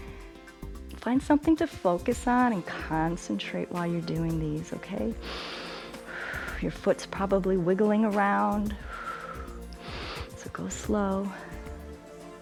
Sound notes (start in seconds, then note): 5.2 inhales and exhales; 8.7 exhales and inhales